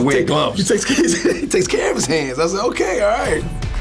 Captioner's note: laughs; upbeat music